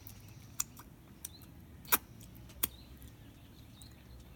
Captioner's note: exaggerated smacking sounds